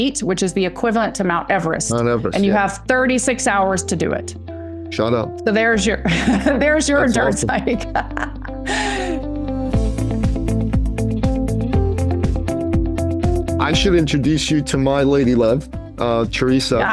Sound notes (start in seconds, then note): 8.2 laughs